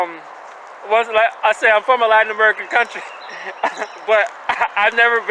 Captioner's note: stammers